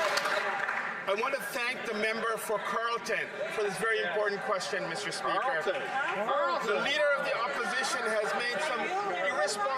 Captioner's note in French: applaudissements; voix de l'interprète